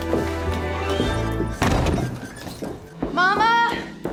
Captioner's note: door slams